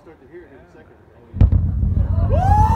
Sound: boom & crackles

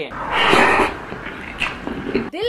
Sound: swooping sound; eating sounds

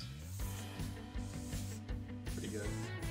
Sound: marker scribbling

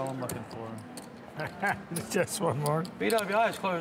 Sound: laughs

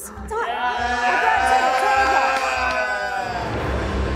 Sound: group cheering

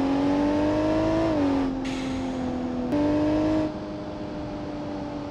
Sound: car engine rumbling

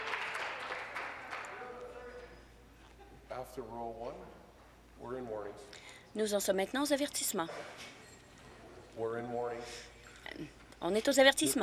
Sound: applause

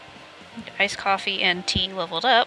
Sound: none

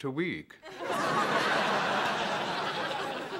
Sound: laughter

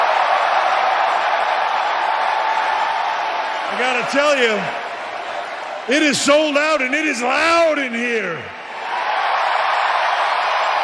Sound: cheering

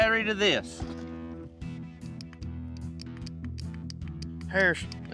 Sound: clicking sound

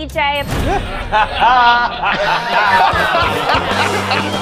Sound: laughter

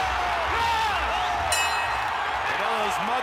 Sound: crowd cheering; bell rings

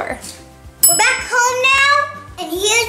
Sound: bell rings

